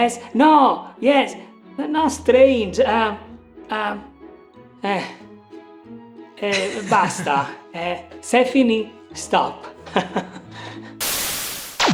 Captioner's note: speaking Italian